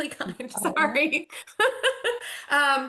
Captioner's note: laughs